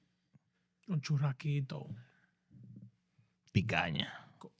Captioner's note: speaking Foreign Language